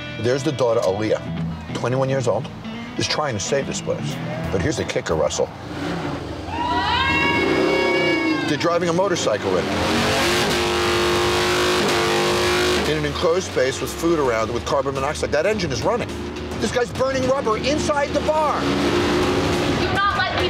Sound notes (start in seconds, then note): 6.0 motorcycle revving; 6.3 customers cheering; 10.0 motorcycle revving; 19.0 motorcycle revving